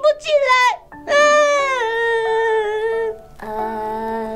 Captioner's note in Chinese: 哭声